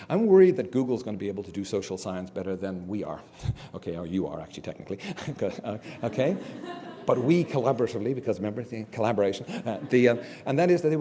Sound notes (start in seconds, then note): 5.2 laugh